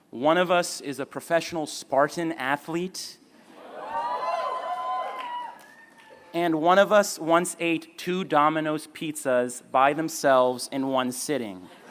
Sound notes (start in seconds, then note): 3.6 cheering